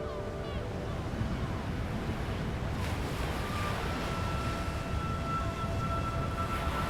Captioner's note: light music continues; waves crashing